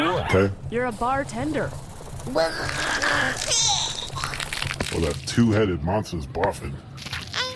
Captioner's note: Sammo and Wink barf